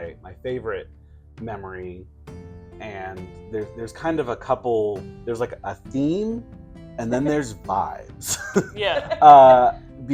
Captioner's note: chuckling